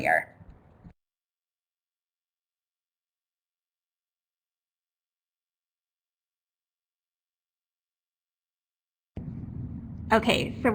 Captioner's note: no sound - switching presenters